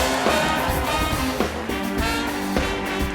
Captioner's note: applause